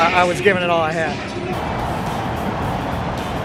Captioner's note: cheering